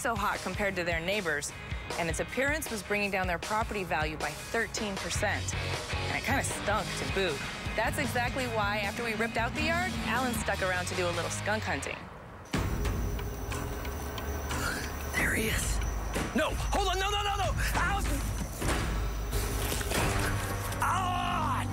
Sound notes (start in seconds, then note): 14.4 gasps; 18.5 yelling